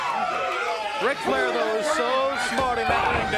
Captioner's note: crowd cheering